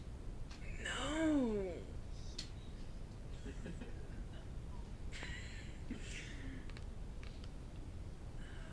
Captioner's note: laughing